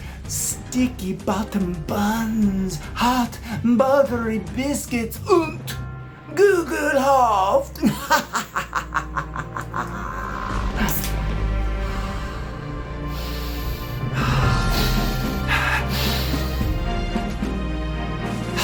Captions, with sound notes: sticky-bottom buns, hot buttery biscuits, (speaking in foreign language)! (laughs)